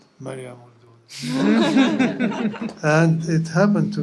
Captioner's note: laughter